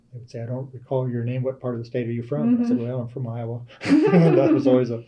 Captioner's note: laughter